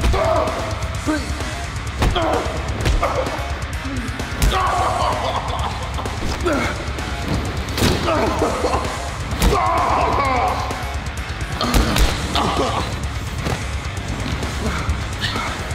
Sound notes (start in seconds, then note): 0.2 yelling; 2.2 thud; 4.4 loud thud; 6.0 grunting; 7.7 loud thud; 9.7 moaning; 11.6 hitting sounds